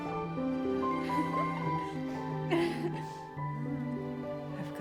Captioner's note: giggling